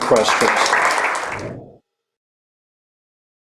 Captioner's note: applause